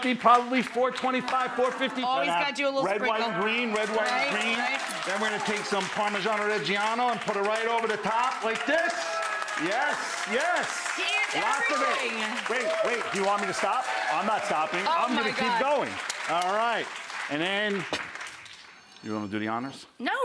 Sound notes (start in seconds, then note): 9.3 audience applauding